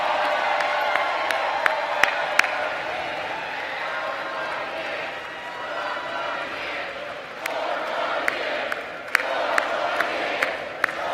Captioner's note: applause